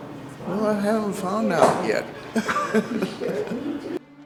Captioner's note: laughs